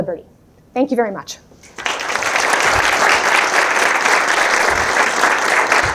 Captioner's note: applause